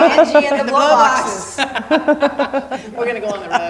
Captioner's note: laughing